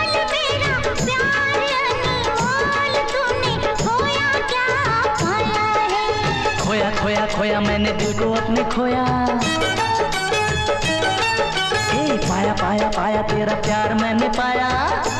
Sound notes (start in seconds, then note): none